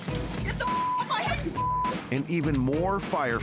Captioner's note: beep